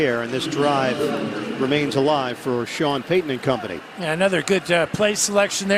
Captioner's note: cheers and applause